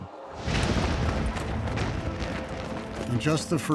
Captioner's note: gunfire